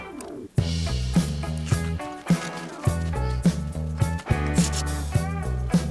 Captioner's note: upbeat music; plastic crinkling; upbeat music